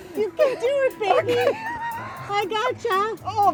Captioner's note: helpless laughter